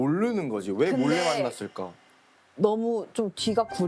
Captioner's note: power inhale